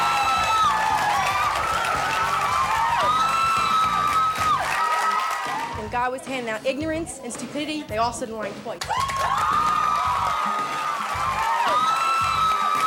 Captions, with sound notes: - When God was handing out ignorance and stupidity, they all stood in line twice. (cheering)